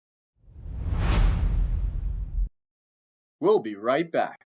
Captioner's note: logo swooshing